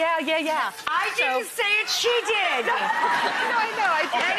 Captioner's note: audience howls with laughter